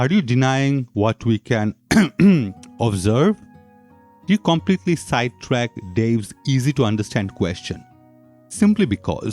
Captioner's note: cough cough